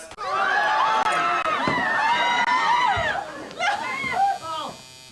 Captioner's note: family members yelling